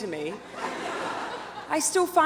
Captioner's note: audience laughs